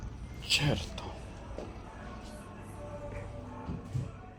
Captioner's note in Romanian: vorbind italiană